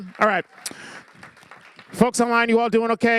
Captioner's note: applause